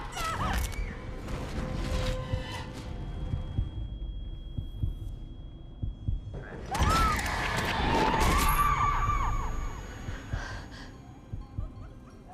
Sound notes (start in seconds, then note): 0.1 woman screams, bone cracks; 2.8 heart beating; 6.5 woman screams; 9.9 gasps